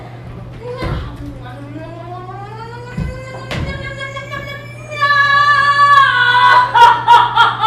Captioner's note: growing noises